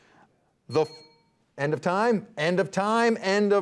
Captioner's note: bell dings